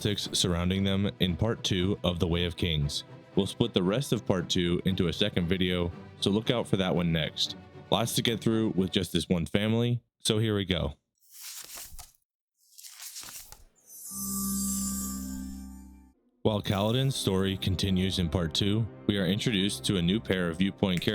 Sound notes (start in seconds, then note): 12.6 pages turning; 14.0 shimmering